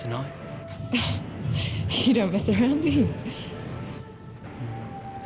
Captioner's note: laughs